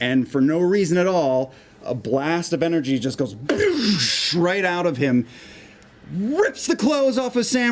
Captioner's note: explosion noise